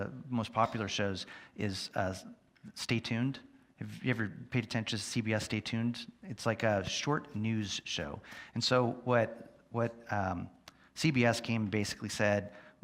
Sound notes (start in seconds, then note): none